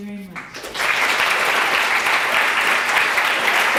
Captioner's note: applauding